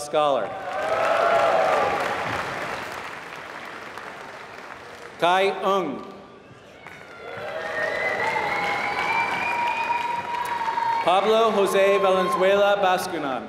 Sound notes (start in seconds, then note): 0.5 applause